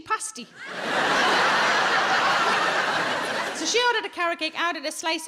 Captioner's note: audience laughs